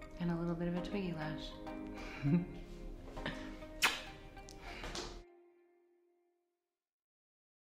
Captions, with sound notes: and a little bit of a Twiggy lash [laughs]. [kissing]